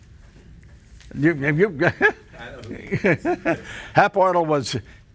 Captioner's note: laughing